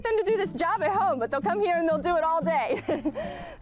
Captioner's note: laughs